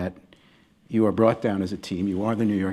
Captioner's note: none